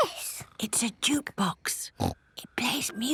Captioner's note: whispering